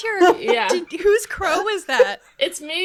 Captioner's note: laughing